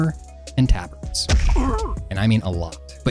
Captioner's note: grunt and impact noise